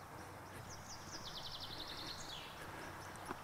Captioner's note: birds chirping